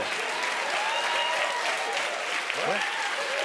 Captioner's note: cheers and applause